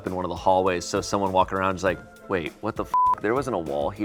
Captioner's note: beep